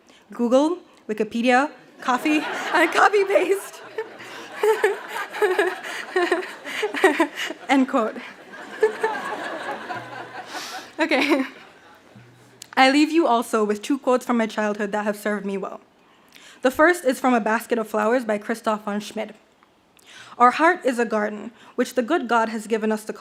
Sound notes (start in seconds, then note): 2.4 laughs; 4.5 audience laughs